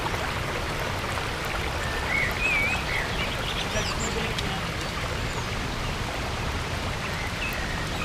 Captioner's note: birds chirping/water flowing